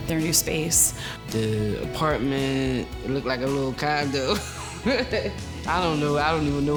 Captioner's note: laughs